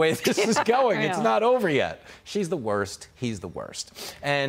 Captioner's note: laughter